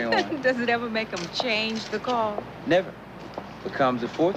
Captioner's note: laughs